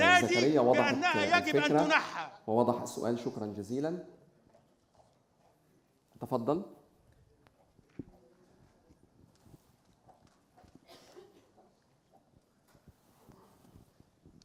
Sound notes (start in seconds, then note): 2.3 moderator speaking in foreign language